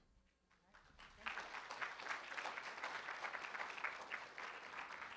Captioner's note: room applauds